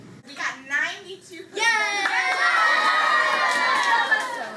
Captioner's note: kids Cheering